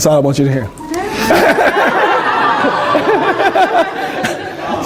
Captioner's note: laughter